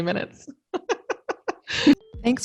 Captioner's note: laughs loudly